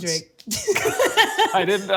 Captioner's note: both laughing